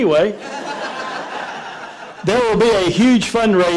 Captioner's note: laughter